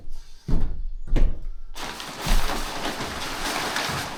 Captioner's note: water splashing